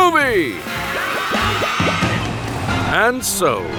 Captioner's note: crowd cheering